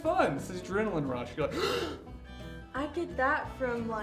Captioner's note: inhales loudly